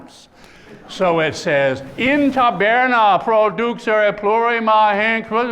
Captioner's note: speaking latin